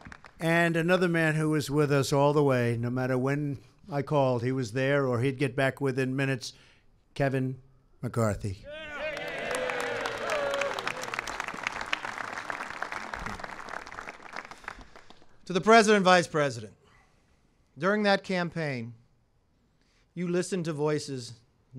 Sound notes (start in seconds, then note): 8.8 applause